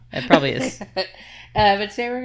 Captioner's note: laughing